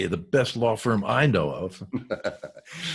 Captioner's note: laughs